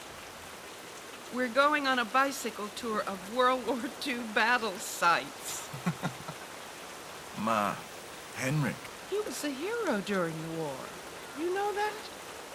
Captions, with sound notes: We're going on a bicycle tour of World War II battle sites. [laughs] Ma, Hendrik? He was a hero during the war. You know that?